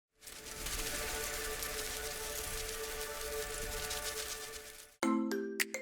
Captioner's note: butterflies Fluttering; peppy Music